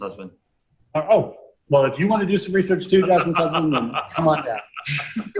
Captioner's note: audience member chuckles